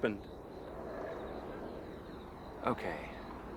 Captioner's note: wind rushing